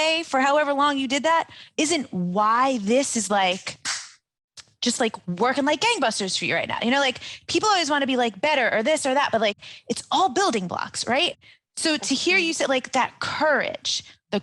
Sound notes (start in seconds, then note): 3.8 snaps fingers; 3.8 claps hands